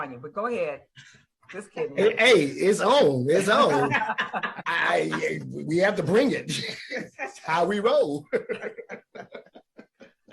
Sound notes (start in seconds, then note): 3.5 laughing; 8.2 laughing